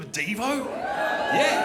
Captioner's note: crowd whoops